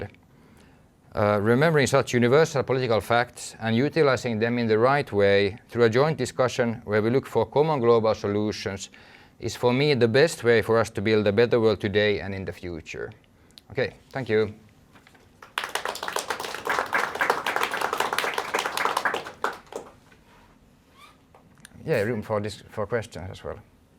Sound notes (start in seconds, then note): 15.1 applause